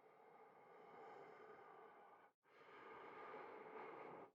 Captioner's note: breath huffing